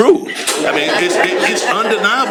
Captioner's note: laughter